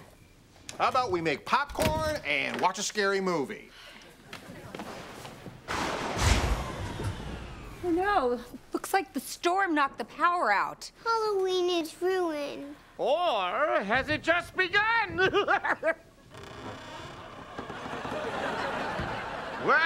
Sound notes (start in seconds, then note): 5.7 thundering; 15.1 laughing; 16.2 creaking